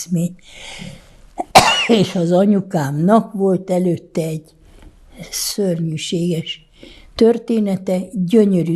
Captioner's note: coughing